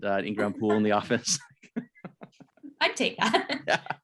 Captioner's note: laughs